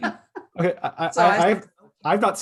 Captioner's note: laughs